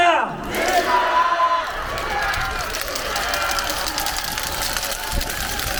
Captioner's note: applause